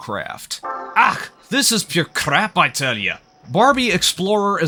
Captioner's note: affable Scottish accent